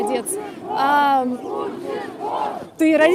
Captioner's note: shouts